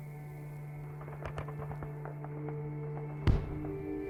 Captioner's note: gunfire